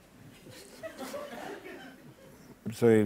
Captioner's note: laughter